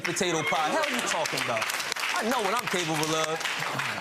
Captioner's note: crowd applauding